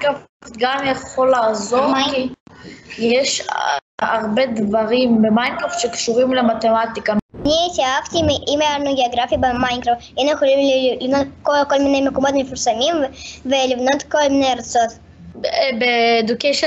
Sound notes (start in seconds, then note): 7.1 slide whooshes; 7.1 speaks foreign language